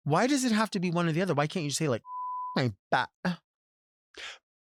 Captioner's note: beep